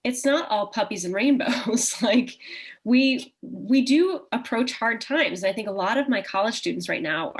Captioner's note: chuckle